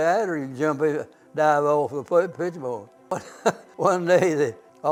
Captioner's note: laughs